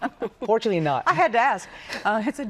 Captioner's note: laughter